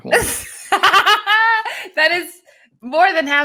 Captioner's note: both laughing